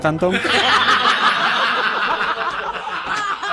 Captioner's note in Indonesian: tertawa